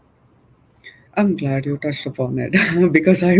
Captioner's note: chuckles